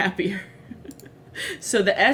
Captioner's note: laughs